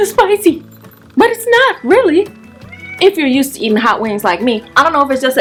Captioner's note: soft meow